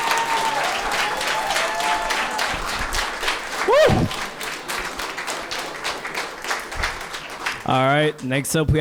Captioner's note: applause